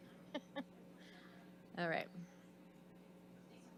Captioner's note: laughs